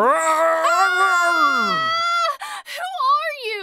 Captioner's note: roar; scream